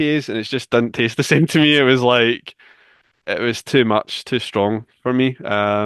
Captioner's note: chuckles